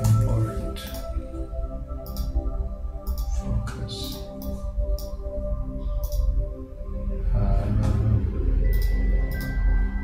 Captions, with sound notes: Import. (mouse clicking) Focus. (mouse clicking)